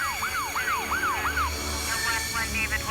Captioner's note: police radio